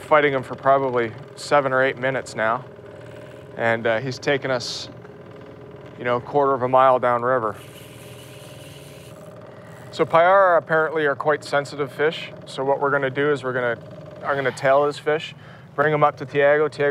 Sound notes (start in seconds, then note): none